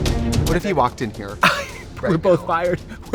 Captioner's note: Katya laughs